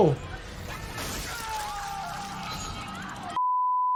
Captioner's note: yelling